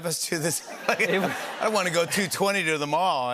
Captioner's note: laughter